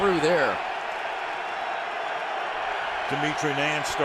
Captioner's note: cheering